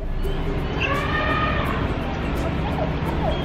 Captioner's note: elephant trumpets